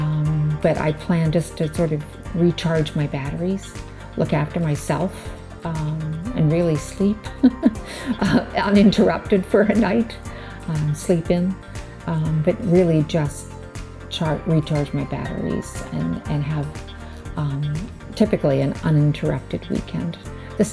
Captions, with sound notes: But, I plan just to sort of, recharge my batteries, look after myself, and really sleep [chuckles] uninterrupted for a night. Sleep in. But, really just recharge my batteries and have typically an uninterrupted weekend.